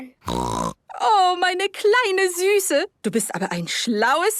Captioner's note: snorting; speaking German